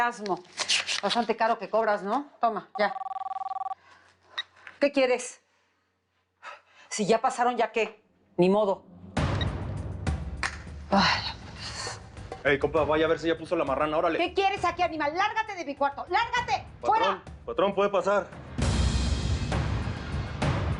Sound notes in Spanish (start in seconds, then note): 4.5 Suena el teléfono